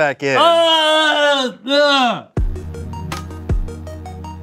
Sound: yelling; chill music

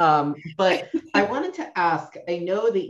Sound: laughs

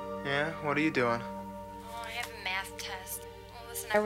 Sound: on phone

